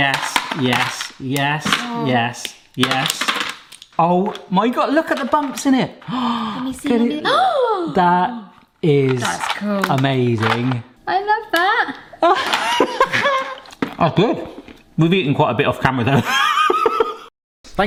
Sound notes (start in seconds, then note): 6.0 gasps; 12.2 laughs; 17.3 laughs